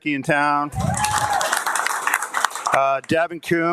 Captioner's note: audience applauding and cheering